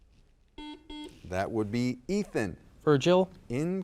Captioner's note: buzzer dings